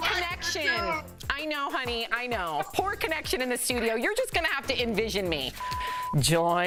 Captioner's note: laughter